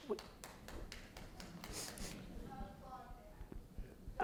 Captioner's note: audience member applauds